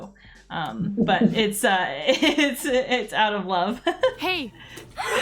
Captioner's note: laughs